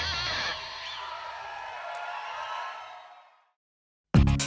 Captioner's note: crowd Cheering